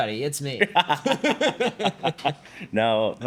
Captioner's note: both laughing